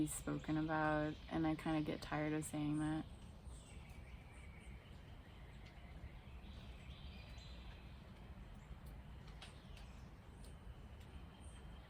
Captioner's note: birds chirping